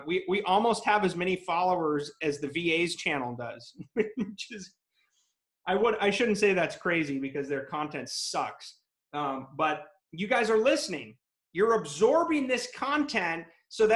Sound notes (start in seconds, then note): 3.8 laughs